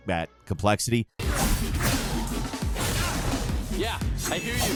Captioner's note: Dante grunting; sword swooshing